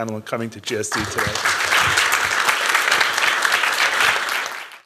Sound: applause

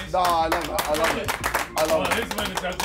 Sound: Sidemen applauding

